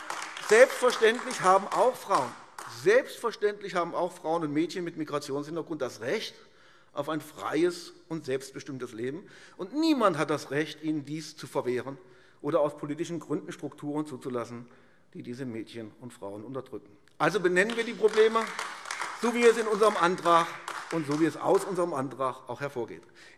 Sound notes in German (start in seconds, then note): 17.2 Beifall AfD